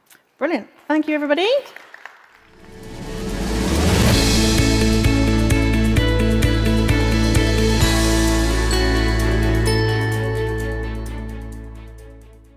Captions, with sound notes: - Brilliant. Thank you everybody. (audience clapping) (upbeat music)